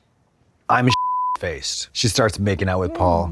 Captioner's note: beep